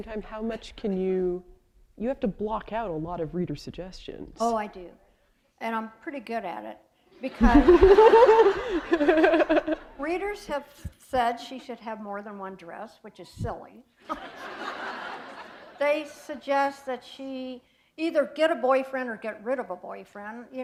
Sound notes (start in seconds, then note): 7.2 laughter; 14.0 laughter